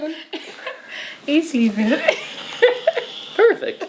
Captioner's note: laughs